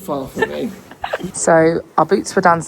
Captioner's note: laughs